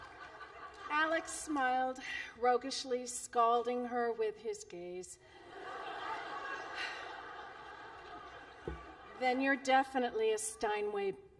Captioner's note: laughter